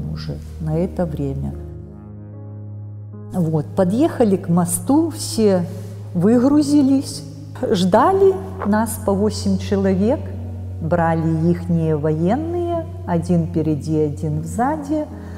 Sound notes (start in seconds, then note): 9.8 Russian